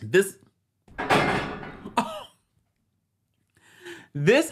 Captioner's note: object thuds